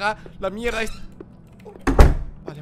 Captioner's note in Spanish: gemido